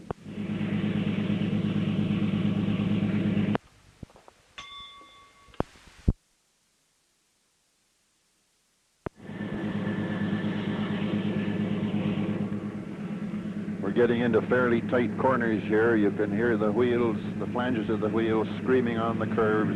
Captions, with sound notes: [Sound of train moving] [Bell Sound] [Sound of train moving] We're getting into fairly tight corners here. You can hear the wheels, the flanges of the wheels, screaming on the curves.